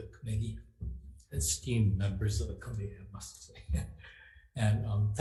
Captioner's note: laughs